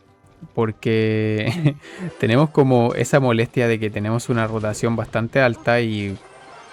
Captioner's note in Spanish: risas